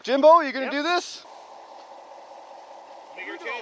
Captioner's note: engine running